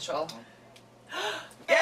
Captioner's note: gasp